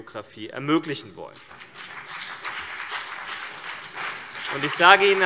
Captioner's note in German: Beifall CDU und BÜNDNIS 90/DIE GRÜNEN